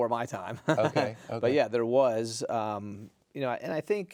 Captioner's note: chuckling